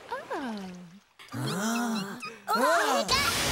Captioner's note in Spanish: gritan